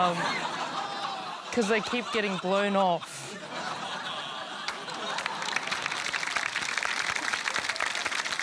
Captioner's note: laughter, cheering